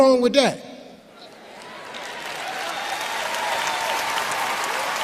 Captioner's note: applauding